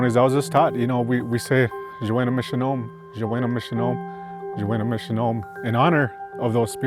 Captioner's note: speaking Anishinaabemowin